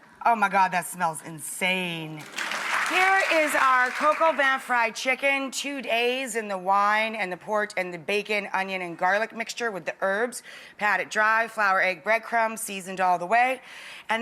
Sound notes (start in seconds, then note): 2.2 audience applauds